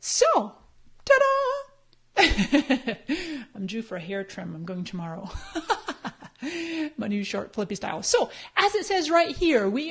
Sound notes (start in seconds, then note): 2.2 laughs; 6.2 laughs